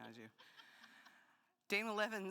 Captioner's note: laughing